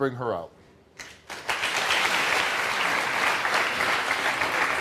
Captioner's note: audience applauding